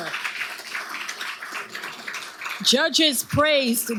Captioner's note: audience applauding